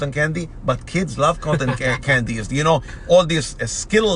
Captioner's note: laughs